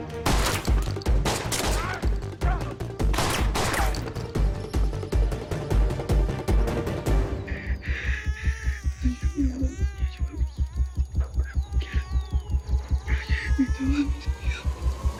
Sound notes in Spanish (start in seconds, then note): 1.1 Disparos; 1.8 Grito; 3.0 Disparos; 7.7 Llantos del bebé; 11.9 Habla entre dientes